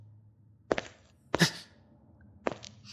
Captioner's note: sharp intake of air